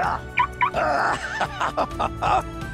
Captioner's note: laughs